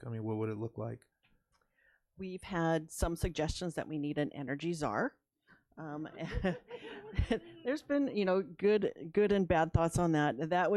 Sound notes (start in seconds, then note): 6.1 laughs; 6.2 audience laughs